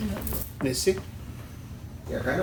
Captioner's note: non-english